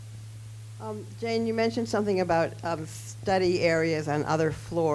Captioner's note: voiceover